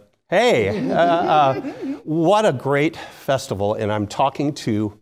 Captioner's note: laugh